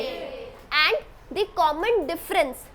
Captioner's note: students responding